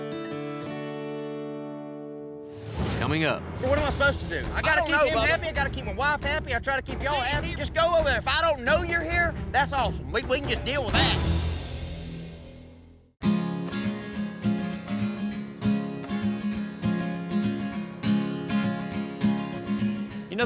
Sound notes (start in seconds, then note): 7.3 angrily shouts